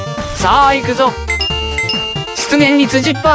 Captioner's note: coin sound effect